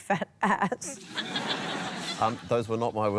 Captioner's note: laughter